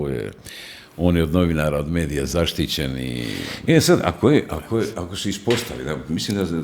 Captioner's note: snorting